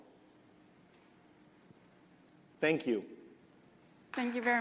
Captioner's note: applause